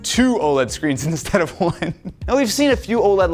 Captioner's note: laughing